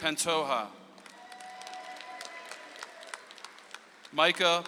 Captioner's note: audience applauds